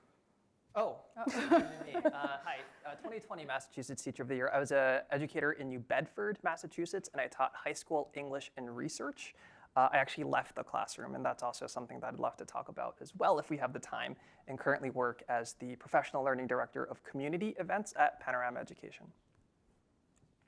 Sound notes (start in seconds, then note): 1.2 laugh